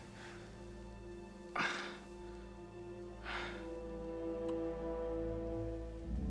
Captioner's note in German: Hecheln